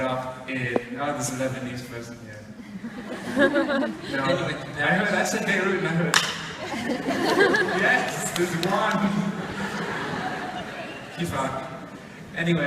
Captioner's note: clap